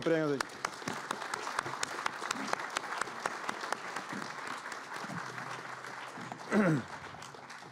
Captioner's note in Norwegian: Applaus